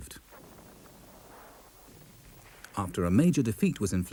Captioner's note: shell booms